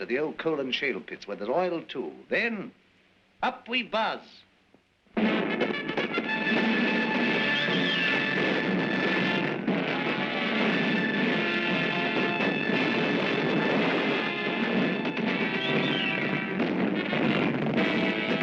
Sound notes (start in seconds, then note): 5.2 dramatic orchestral music; 5.2 gunfire; 16.5 grenade explodes; 18.2 dramatic orchestral music; 18.2 gunfire; 18.2 sounds of war